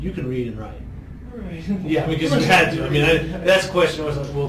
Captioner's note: laughs